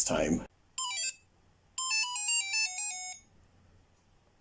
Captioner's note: bleeping, Game Over